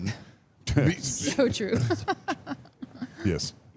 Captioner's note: laughs